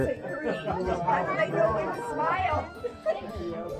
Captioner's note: people talking